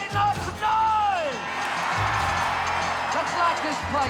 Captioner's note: crowd cheers loudly